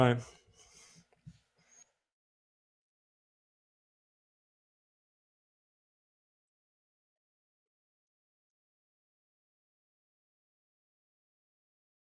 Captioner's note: silence